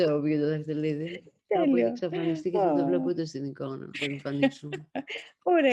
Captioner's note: laughs